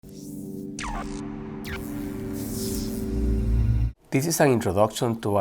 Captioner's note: electronic tones